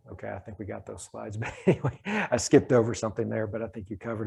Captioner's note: laughs